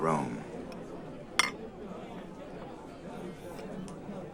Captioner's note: indistinct chatter